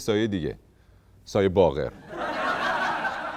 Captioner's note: laughter